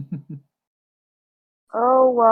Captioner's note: giggle